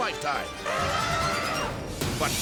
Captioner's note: elephant trumpeting